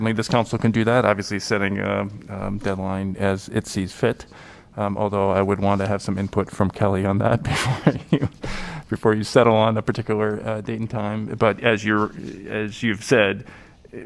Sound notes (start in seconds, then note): 7.4 laughter